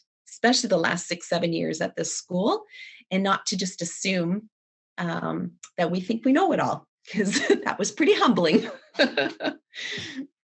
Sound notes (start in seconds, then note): 8.5 laughs